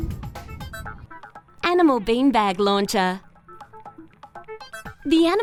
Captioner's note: voiceover